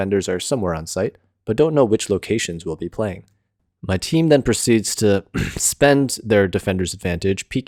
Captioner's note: cough